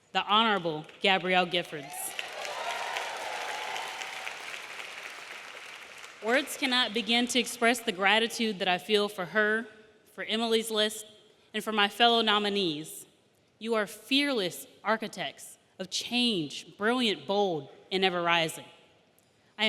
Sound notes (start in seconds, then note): 1.8 audience cheering; 1.8 audience applauding